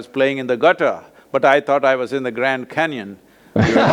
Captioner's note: both laugh